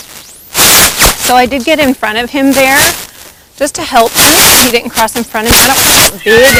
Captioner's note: horse whinneys loudly